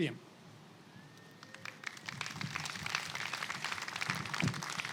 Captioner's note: attendees clapping